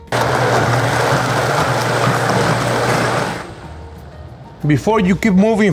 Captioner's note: blender whirring